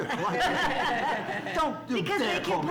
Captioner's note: laughs